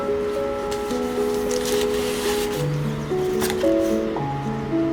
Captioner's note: pages shuffling; stickers sliding; calming piano music